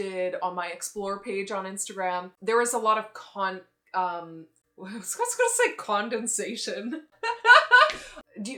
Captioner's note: laughs